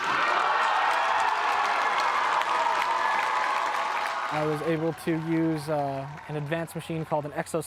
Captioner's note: cheers and Applause